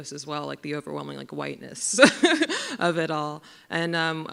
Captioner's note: laughs